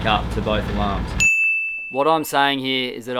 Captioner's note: dinging